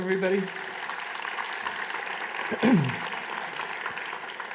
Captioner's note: applause